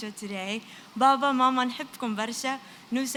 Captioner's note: non-english